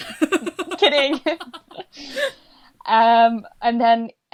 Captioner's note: laughs